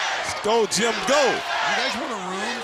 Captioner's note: crowd cheering